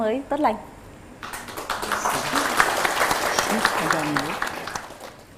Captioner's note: applause